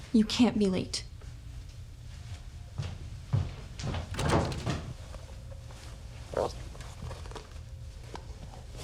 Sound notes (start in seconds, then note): 3.9 footsteps thudding